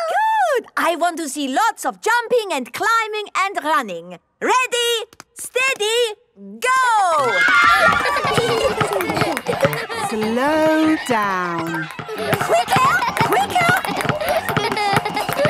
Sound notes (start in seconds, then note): 7.0 kids screaming; 7.2 laughter